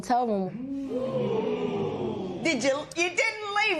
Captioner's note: spectators ooh